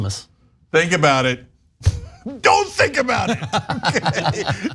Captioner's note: laugh